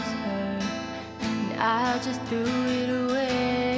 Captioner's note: none